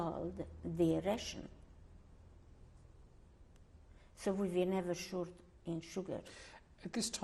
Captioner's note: pauses for 3 seconds